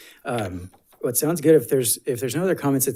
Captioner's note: paper rustling